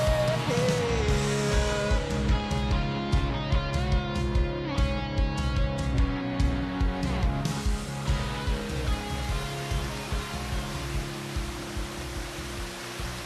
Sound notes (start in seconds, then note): 7.5 water rushing